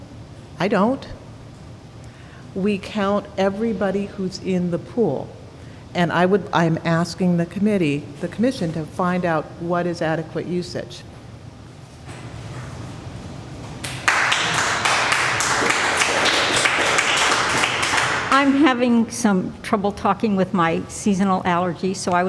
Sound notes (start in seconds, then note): 11.1 applause